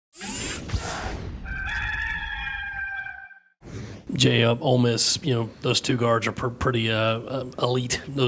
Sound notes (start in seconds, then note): 1.4 rooster crowing